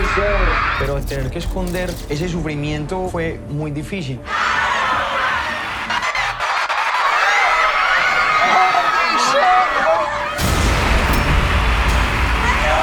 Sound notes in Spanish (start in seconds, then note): 5.4 público aclama; 8.4 en inglés